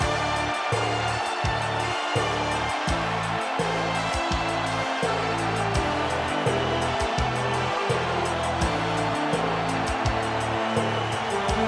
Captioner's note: crowd cheering